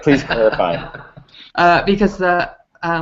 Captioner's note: laughter